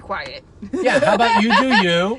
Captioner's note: laughs